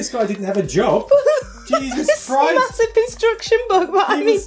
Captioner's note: laughs